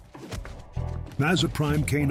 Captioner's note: feet shuffling; pensive music; fist thudding